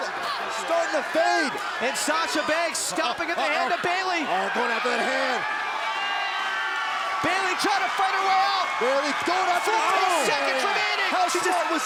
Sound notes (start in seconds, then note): 4.9 crowd cheering